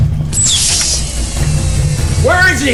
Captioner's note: door whirring